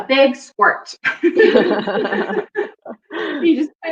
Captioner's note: laughing